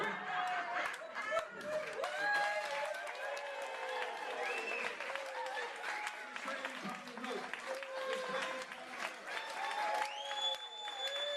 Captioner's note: applause and cheering